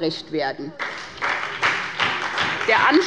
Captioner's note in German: Beifall bei der SPD und der LINKEN